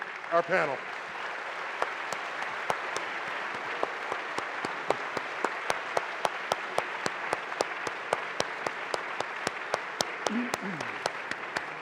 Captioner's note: applause